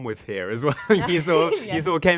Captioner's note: laughing